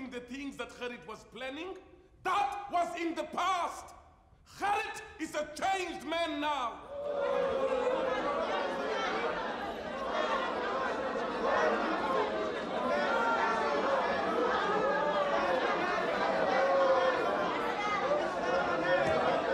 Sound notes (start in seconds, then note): 6.9 crowd grumbling